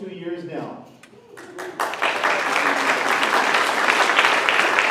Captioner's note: applause